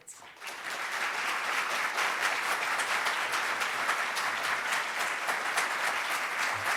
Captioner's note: crowd clapping